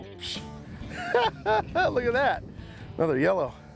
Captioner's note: laughs